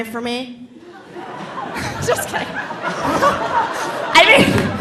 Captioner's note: audience laughing